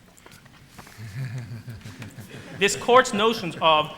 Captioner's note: laughter